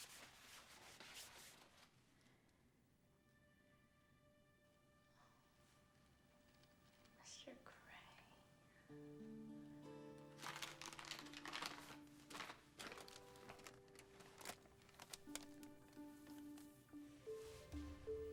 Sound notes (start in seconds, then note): 7.2 whispering